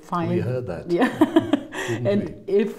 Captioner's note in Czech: smích